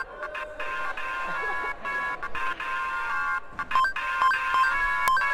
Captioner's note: laughter